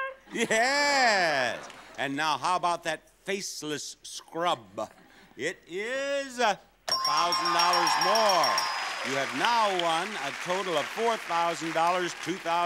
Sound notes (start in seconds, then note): 6.8 bell dinging